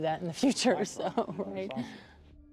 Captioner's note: laughs